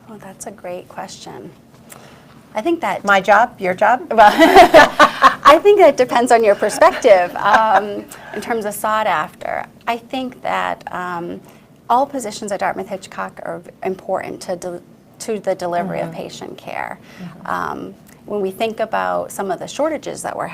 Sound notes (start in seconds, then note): 4.7 laughs